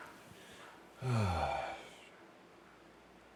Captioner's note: sigh